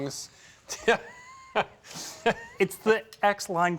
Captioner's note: laughs